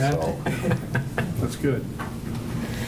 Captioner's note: laughing